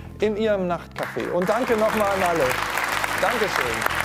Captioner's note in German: Applaus